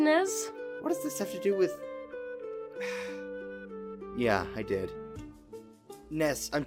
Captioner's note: sighs